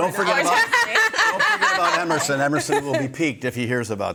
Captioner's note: hosts laughing